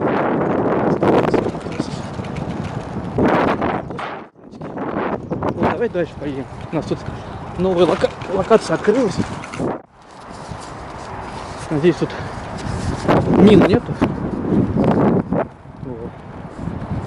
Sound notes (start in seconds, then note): 5.5 strong wind